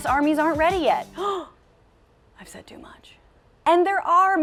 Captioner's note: gasp